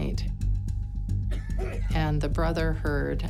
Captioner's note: coughing